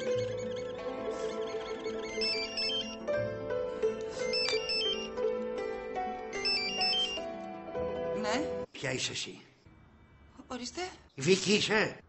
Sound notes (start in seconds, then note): 2.0 cellphone ringing